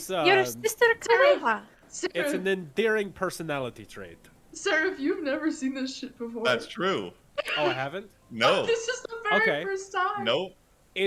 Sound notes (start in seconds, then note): 7.4 gleeful Noises